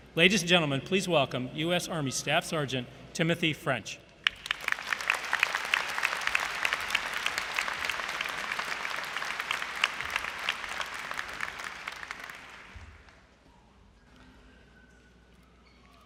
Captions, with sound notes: Ladies and gentlemen, please welcome US Army Staff Sergeant Timothy French. [ Applause ]